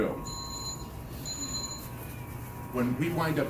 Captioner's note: bell ringing